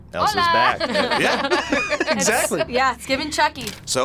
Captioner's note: both laugh